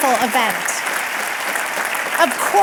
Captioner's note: audience clapping and cheering